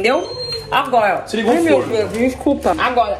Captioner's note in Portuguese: apito de forno